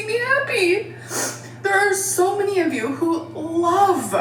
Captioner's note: sniffling